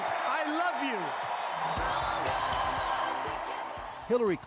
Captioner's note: cheers and Applause